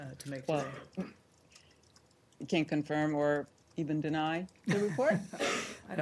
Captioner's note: laughter